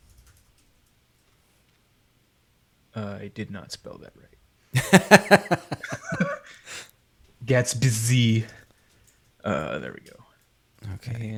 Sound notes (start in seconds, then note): 4.7 laughs; 4.7 chuckles